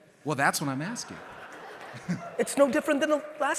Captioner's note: audience laughing